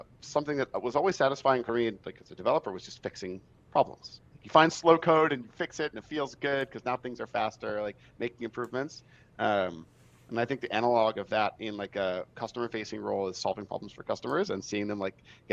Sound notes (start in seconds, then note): none